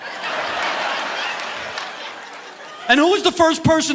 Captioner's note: audience laughing